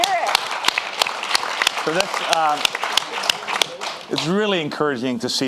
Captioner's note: audience applauding